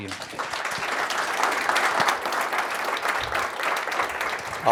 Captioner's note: applause